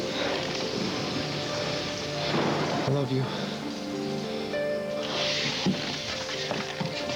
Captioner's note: thunder